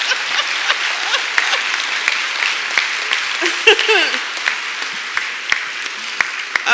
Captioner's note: clapping; laughter